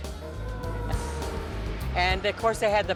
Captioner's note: police Sirens